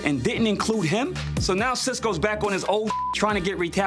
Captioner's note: beep